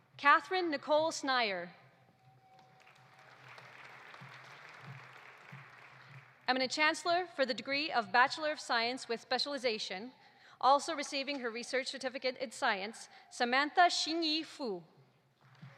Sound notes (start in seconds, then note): 2.3 audience applauding